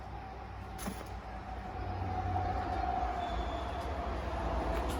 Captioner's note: a vehicle approaching in the distance, brakes squealing